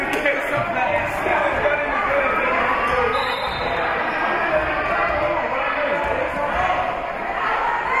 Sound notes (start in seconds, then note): 3.1 whistle being blown